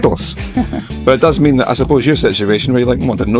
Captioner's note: laughter